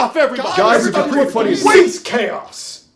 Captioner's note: boys arguing